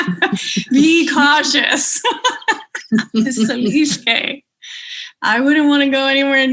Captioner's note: laughing